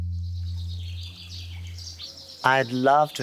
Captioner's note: birds chirping